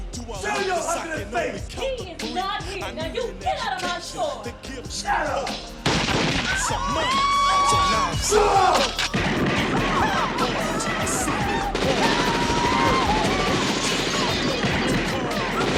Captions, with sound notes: Show your ugly face. - He is not here. Now you get outta my store. - Shut up. (gunshot ringing) (women screaming) Shut up! (gunshots blasting)